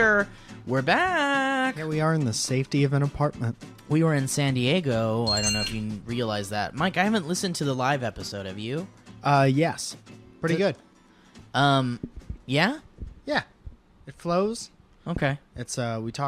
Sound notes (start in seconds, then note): 5.2 ding